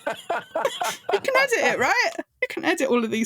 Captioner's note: laughing